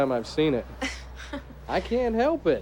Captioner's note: Margaret laughing